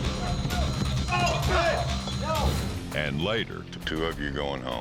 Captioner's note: fighting, shouting